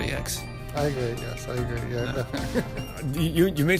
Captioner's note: laughs